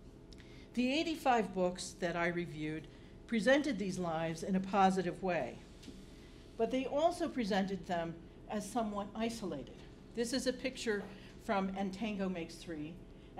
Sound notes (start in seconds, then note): none